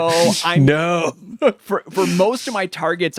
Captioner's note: laughs